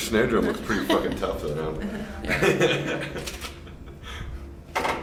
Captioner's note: laughs